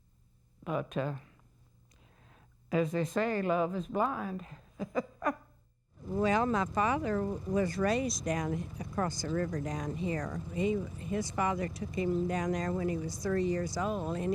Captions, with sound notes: But as they say, love is blind. [laughs] >> Well, my father was raised down across the river down here. His father took him down there when he was three years old